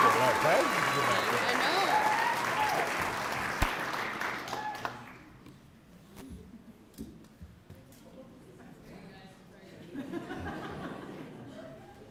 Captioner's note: cheering and applause